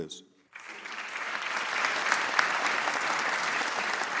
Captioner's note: audience applauds